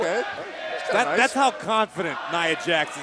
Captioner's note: crowd chatter